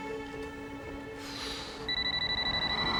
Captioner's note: Penny sighs; phone ringing